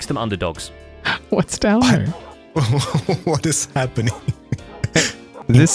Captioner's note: laughing